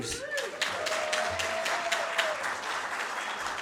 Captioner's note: audience cheers